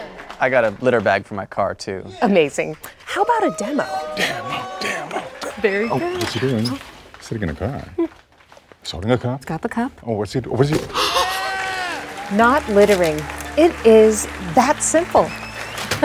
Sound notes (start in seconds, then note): 10.9 audience applauding; 10.9 host gasps